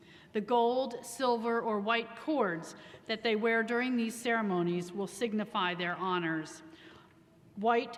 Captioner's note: none